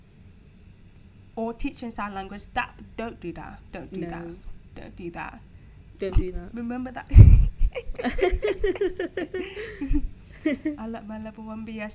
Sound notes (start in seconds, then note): 7.1 snickering